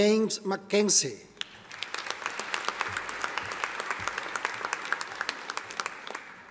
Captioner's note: audience applauding